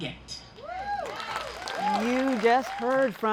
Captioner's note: audience cheers; audience applauds